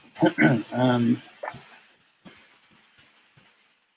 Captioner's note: clears throat